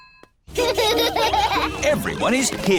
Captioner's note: children laughing